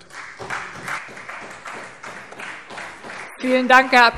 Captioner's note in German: Beifall Freie Demokraten